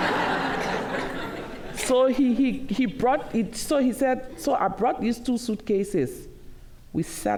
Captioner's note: laughter